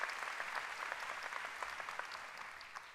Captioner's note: applause